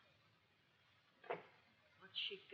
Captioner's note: door clicks